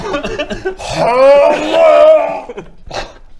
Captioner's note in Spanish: hhhrrrggghhhllglghghhragh